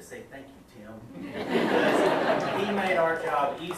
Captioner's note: audience laughs